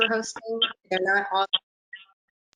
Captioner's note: audio stuttering